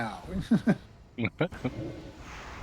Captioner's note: laughing